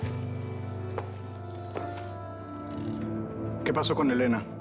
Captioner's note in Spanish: sollozos